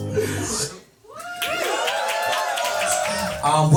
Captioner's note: applause